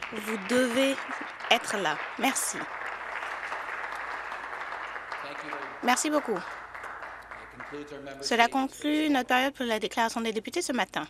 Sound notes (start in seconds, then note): 6.0 some Applause